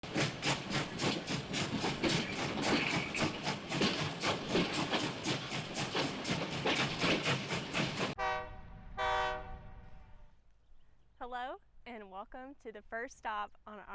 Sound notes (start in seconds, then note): 0.1 train rails rumbling; 8.1 train whistling